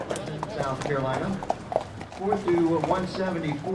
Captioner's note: indistinct chatter